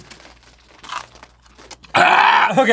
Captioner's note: monch; guttoral displeasure